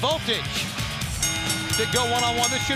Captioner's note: bell ringing